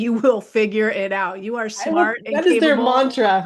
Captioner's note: laughs